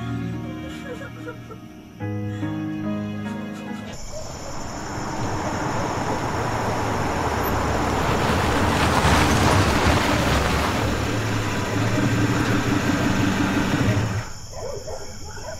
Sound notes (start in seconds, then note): 0.2 television; 0.4 sound of woman crying; 3.9 car pulling up to house; 13.9 car engine cuts off